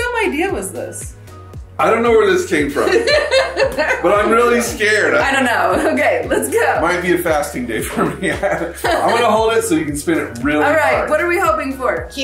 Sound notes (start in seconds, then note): 2.8 laughs; 7.8 laughs